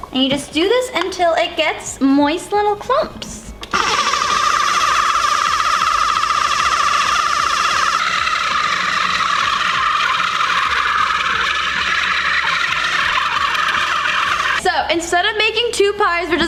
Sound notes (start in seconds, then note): 5.4 machine whirring